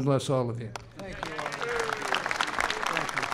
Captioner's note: applause